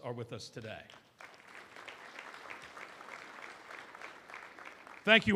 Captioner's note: applause